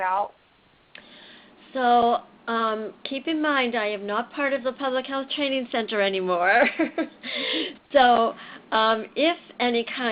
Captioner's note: laughs